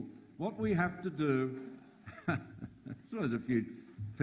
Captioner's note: chuckles